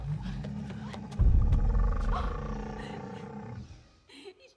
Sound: dinosaur growls

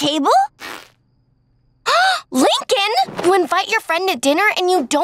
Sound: gasping

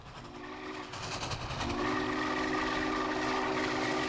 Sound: train whistle

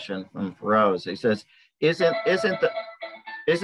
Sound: phone ringing

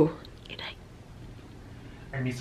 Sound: whispers

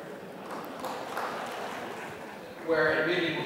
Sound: applause

